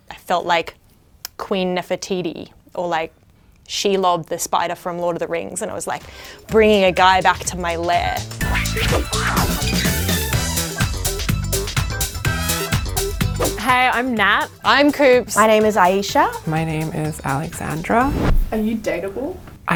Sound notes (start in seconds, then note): 8.1 upbeat music; 8.4 logo squeaks; 8.8 air whooshes